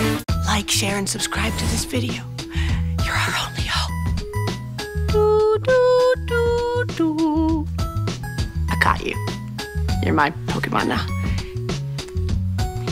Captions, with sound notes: Like, share, and subscribe to this video. You're our only hope. [humming The Hunger Games theme] I caught you. You're my Pokémon now.